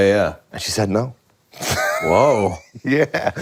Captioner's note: laughs